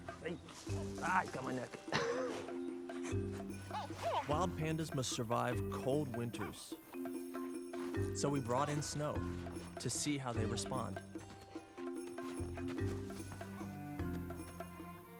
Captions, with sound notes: Ah, you got my neck. *chuckles* Wild pandas must survive cold winters. So we brought in snow to see how they respond.